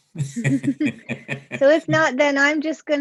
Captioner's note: laughing